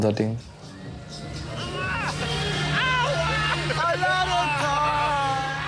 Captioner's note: laughter